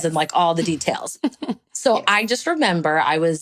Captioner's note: chuckles